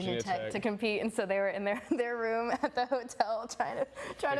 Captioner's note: laughing